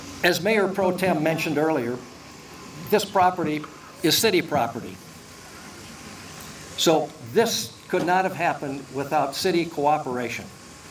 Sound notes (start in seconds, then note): none